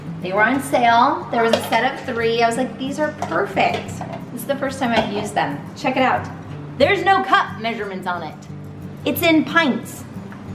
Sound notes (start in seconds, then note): none